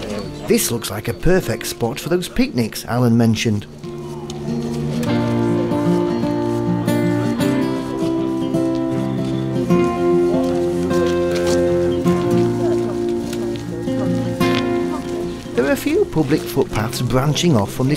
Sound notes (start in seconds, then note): 6.0 footsteps and chatting